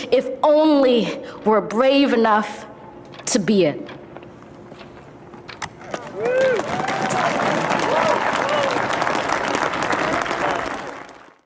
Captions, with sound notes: If only we're brave enough to be it. (audience applauds)